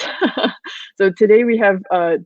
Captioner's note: laughs